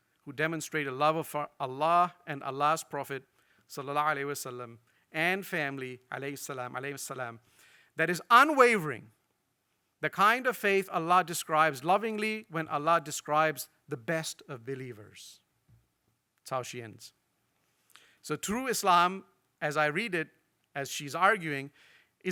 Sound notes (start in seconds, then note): 4.1 speaks in foreign language